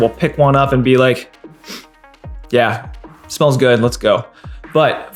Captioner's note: sniffs